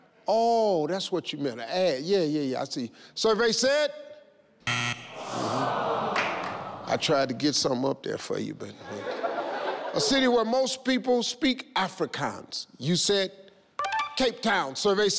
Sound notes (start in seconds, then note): 4.9 buzzing; 5.1 crowd sighs; 8.8 crowd laughs